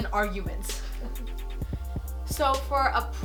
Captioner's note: laughing